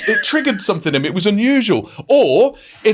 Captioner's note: laughing